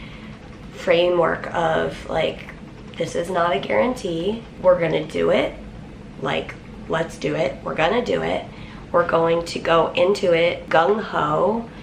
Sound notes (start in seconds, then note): none